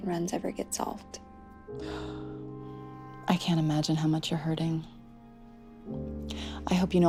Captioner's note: gasps